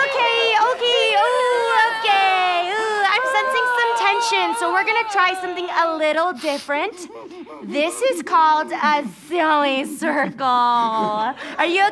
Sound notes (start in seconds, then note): 6.3 sniffs, whimpering